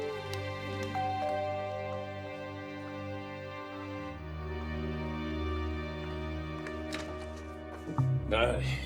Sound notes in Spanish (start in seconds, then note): 0.0 Llanto de la bebé; 0.9 Timbre de la puerta